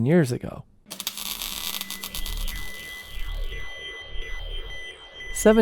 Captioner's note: time machine whirs